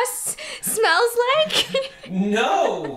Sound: laughs

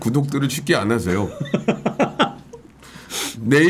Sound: laughing

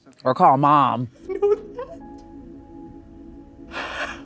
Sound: cries

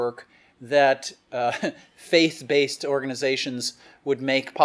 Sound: chuckles

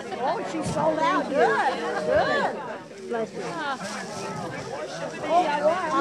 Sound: sound of crowd exchanging pleasantly

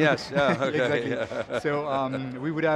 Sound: laughs

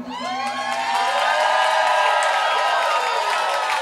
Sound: crowd applauding

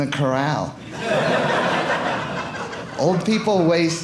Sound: audience laughing

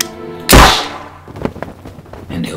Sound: gunshot

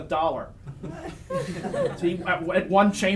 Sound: audience laughs

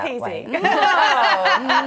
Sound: laughing

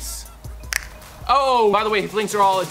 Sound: snaps

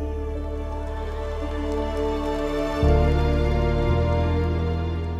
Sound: crowd cheering

